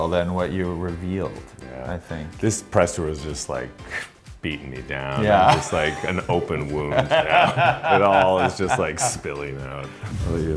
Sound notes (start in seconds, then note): 7.5 Billy laughs